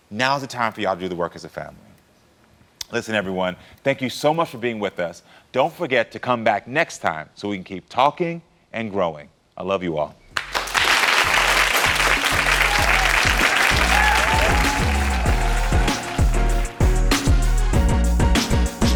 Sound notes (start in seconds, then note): 10.3 applause; 10.5 upbeat music